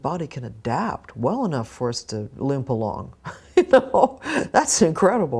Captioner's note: laughs